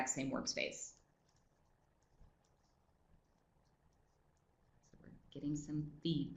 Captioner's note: no sound - waiting for comments in the chat box